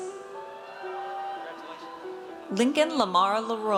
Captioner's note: audience cheers